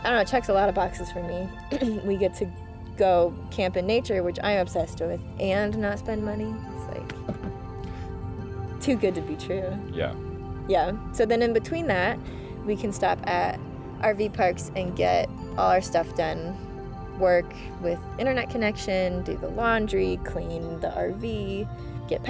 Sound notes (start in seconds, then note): 9.9 laughing